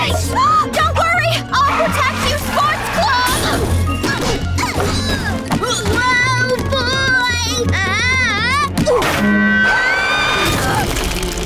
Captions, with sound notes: Don't worry, I'll protect you sports club! [yelling] Oh boy! [screaming] [screaming]